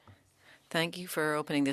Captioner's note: speaking French